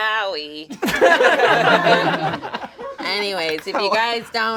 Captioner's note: all laugh